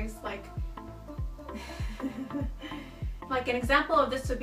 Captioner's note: stupid laugh